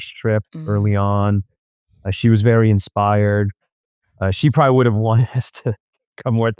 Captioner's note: laughs